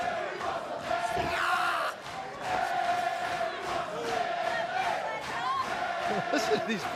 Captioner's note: fans chanting